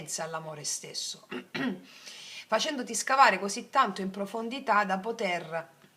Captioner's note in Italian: schiarire la voce